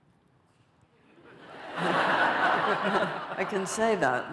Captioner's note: laughter